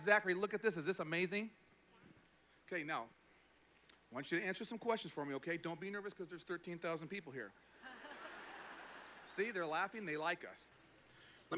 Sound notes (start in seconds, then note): 7.8 laughter